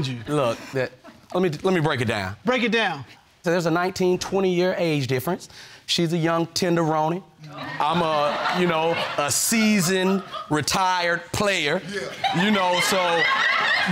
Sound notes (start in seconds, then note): 7.4 audience laughing